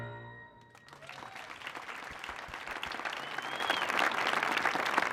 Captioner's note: audience applauding